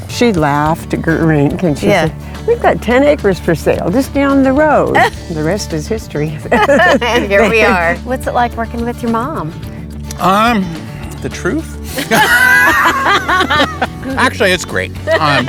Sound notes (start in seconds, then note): 6.4 laughing; 11.9 laughing